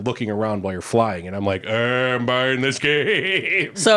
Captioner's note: laughing